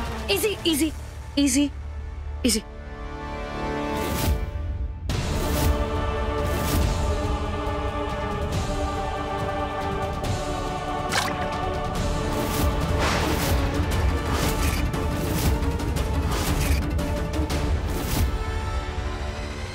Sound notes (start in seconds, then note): 5.0 pensive music playing; 11.1 splashes water